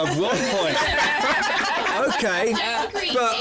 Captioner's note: laughter